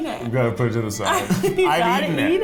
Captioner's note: laughing